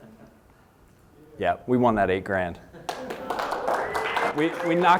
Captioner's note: applause